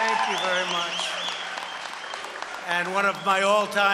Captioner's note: applause